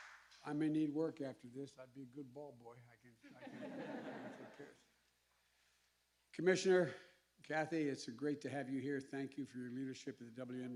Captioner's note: applause